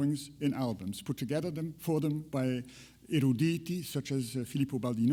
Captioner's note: speaks in foreign language